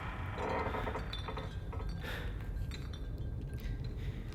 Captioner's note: wood creaking, bottles rattling